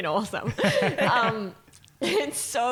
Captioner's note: laughing